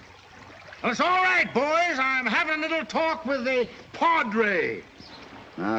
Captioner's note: yelling